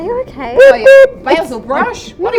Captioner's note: boom boom!